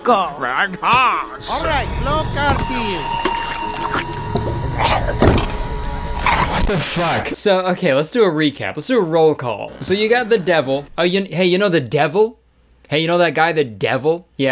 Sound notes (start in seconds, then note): 2.7 slurping; 4.9 man grunting; 5.2 table thuds